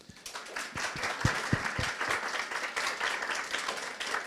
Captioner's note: audience applauding